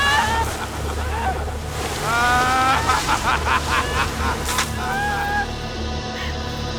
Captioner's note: men laughing; water spraying; ominous music; yelling